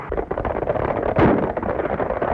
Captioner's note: gunshot